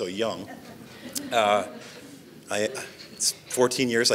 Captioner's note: audience laughs